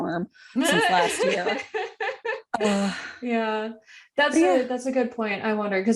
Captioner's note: sad laughter